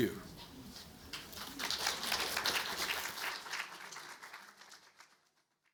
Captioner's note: audience applauding